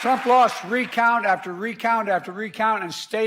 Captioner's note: applause